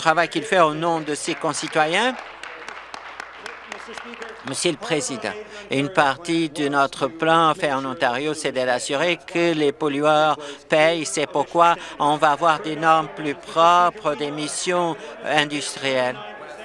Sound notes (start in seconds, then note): 4.8 applause